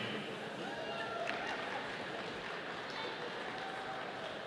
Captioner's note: audience applauding